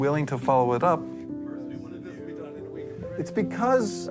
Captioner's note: student speaking faintly